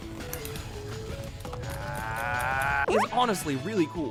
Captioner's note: opponent growling